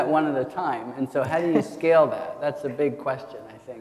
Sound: attendees chuckle

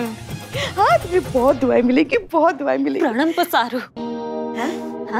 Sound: mumbles in foreign language

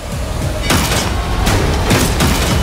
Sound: gunfire

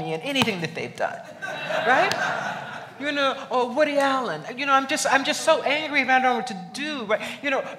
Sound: laughs

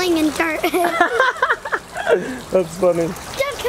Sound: giggles; dad laughing

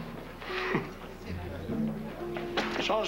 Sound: Petit rire

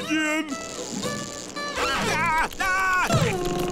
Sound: screaming

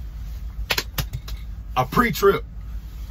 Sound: hands slapping

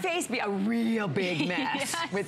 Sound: laughter

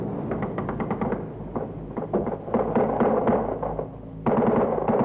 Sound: machine guns firing

